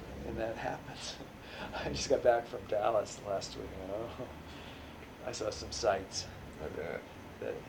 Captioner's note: laughs